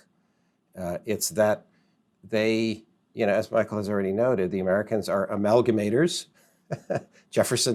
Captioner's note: laughs